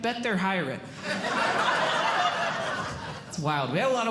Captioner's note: audience Laughing